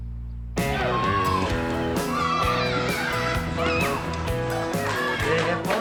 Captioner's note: children shouting